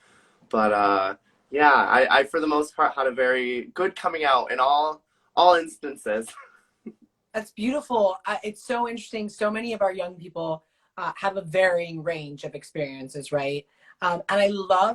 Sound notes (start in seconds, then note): 6.9 laughs